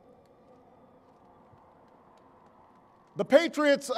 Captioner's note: applause